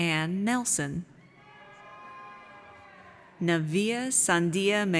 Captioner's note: audience cheers